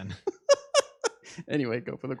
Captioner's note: laughing